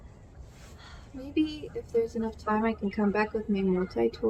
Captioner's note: exhales loudly